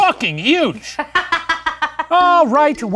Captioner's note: laughing